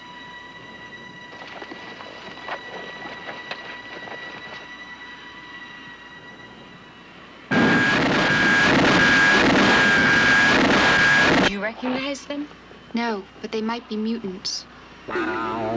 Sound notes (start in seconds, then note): 7.5 zooming